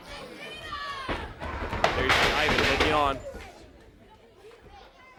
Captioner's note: crowd chatter